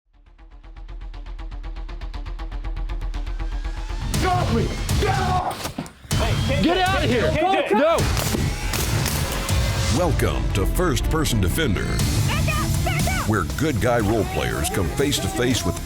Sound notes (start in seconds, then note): 0.6 exciting electronic music; 8.1 airsoft gun firing